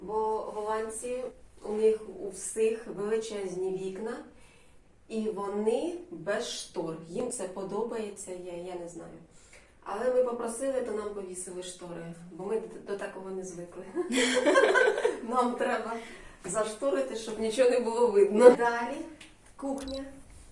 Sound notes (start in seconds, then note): 14.0 laughter